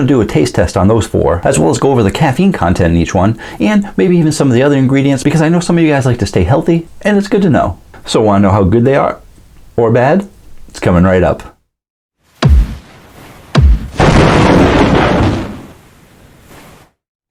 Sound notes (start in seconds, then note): 13.5 thud; 13.5 lightning Strike